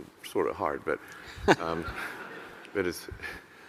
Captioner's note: laughing